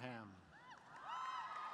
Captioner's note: cheers and applause